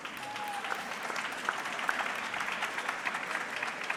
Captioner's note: audience clapping